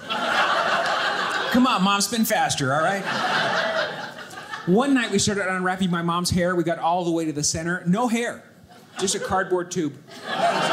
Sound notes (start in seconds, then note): 0.0 audience laughing